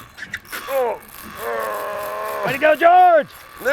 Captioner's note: groans